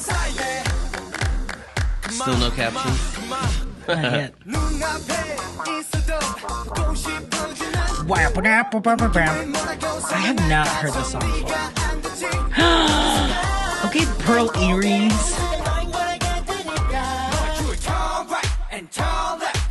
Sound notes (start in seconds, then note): 3.8 laughs; 12.5 gasp